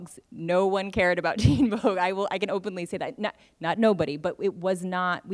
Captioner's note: laughs